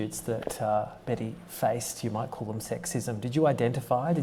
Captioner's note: none